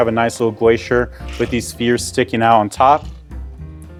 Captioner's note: graphic whooshes